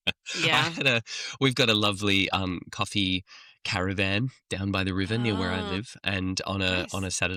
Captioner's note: laughs